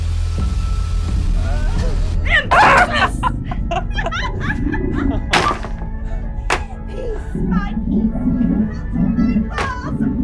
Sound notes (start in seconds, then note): 2.3 startled yelp; 2.5 cackling; 2.5 hesitant chuckling; 5.3 walls clattering